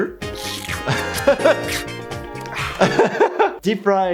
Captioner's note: laughs